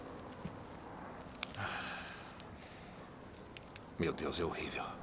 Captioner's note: sighing